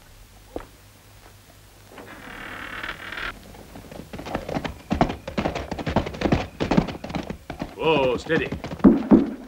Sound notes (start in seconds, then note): 1.9 creaking; 3.2 horses clattering; 8.2 bangs